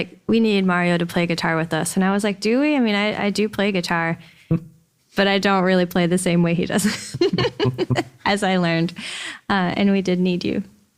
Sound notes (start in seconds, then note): 6.8 laughs